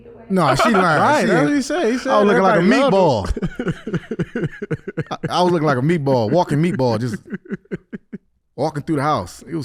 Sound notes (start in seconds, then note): 3.6 laughs